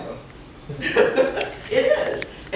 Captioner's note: laughs